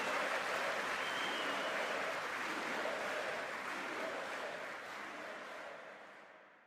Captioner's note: distant chanting